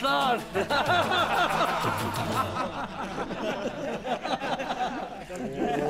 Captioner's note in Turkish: Gülme sesleri